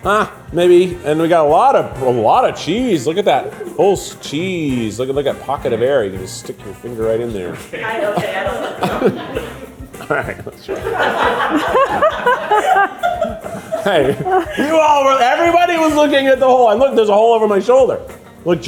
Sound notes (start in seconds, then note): 7.9 crew indistinctly chattering; 11.5 crew laughing